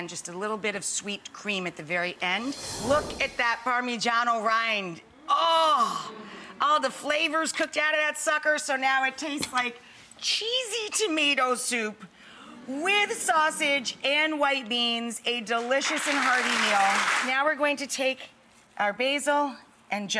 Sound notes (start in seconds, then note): 15.8 audience clapping